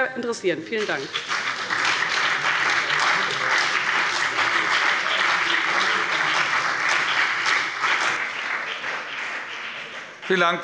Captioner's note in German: Beifall bei dem BÜNDNIS 90/DIE GRÜNEN und der CDU